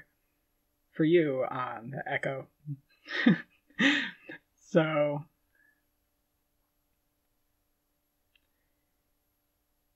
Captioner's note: laughing